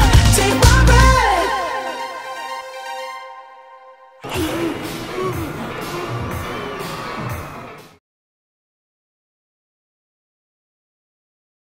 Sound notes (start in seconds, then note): 4.2 gasping